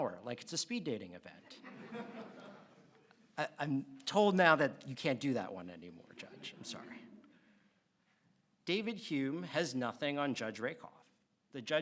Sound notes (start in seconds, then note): 1.5 audience laughs